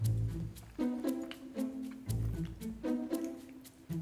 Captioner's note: mischievous music; eating